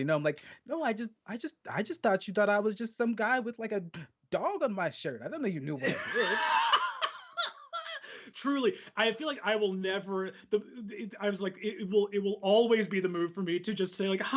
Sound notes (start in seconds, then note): 5.8 laughing